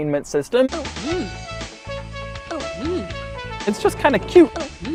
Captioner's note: game sounds from Word Munchers Deluxe